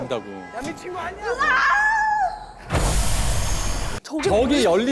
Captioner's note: screaming